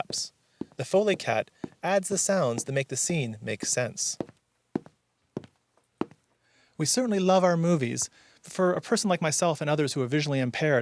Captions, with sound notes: The Foley Cat adds the sounds that make the scene make sense. (Footsteps walking) We certainly love our movies. For a person like myself and others who are visually impaired,